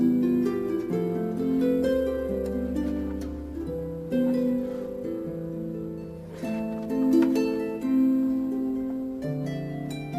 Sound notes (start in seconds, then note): none